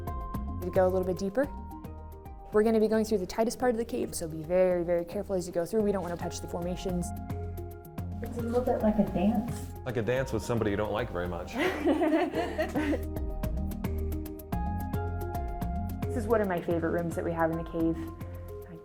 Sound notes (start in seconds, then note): 11.5 laughing; 13.6 upbeat music